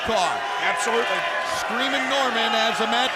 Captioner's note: crowd chatter